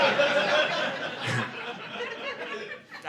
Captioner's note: audience laughing